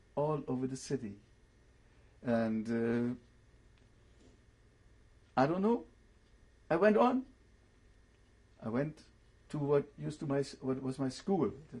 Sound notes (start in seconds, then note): 2.7 pauses for 3 seconds